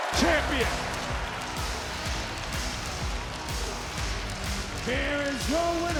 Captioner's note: audience cheering; upbeat music